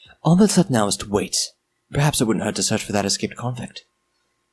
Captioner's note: none